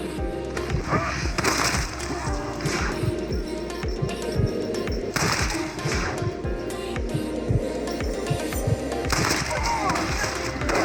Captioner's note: sounds of composure ending and firing